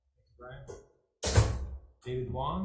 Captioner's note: door slams